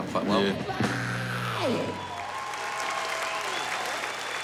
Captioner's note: cheering, applause